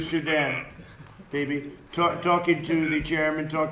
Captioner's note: laughter